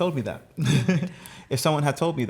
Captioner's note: laughter